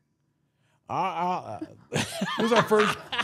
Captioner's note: laughing; mumbling; laughing